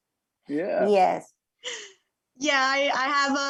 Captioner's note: laughing